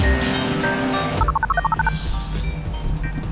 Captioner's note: phone buzz